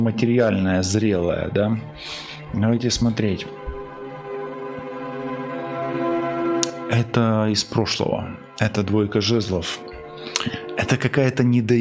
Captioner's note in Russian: фыркает